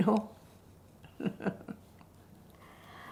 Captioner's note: lAUGHING